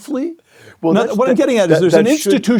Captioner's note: laugh